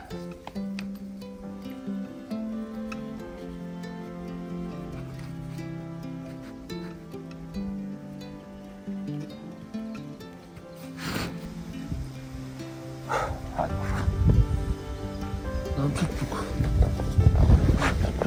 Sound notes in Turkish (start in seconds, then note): 11.4 homurdanır